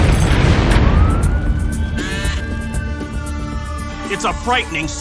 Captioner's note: siren wailing